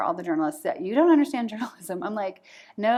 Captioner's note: laughter